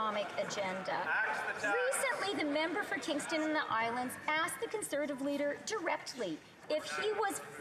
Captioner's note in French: voix de l'interprète